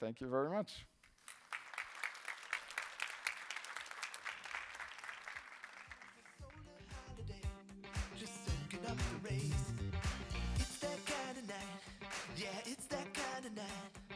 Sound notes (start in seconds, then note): 6.9 applause